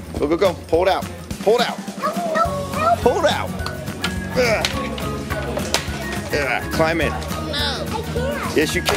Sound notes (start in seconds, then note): 4.4 grunts; 7.2 cartoon Voice